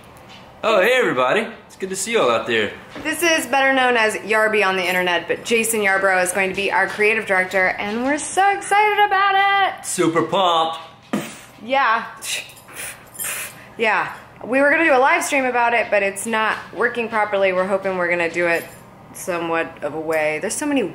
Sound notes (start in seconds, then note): 11.2 punch sound effect